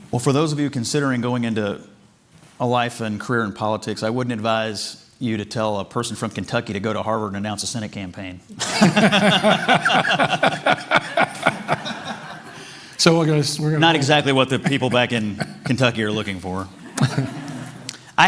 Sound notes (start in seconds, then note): 8.6 laughter